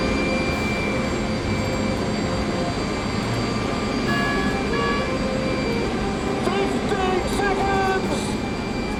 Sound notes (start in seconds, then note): 4.3 beeping